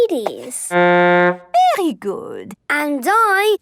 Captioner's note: horn blowing